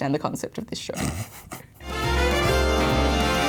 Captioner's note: laughs; upbeat music